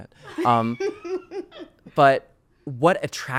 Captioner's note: laughing